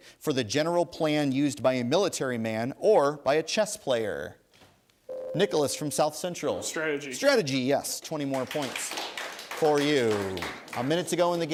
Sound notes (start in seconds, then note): 5.1 ding; 8.2 applause